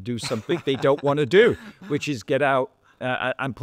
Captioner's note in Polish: śmiech